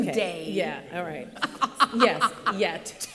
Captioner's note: laughter